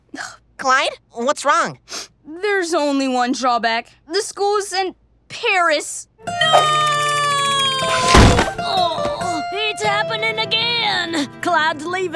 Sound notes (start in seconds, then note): 1.5 sniffs